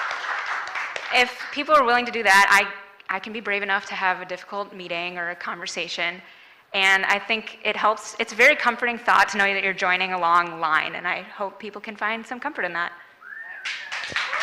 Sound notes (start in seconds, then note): 0.0 applause